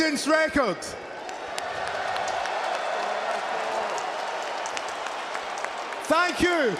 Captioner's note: crowd cheers